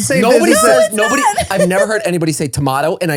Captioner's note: laughs